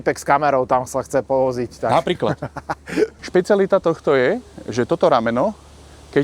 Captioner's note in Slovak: smiech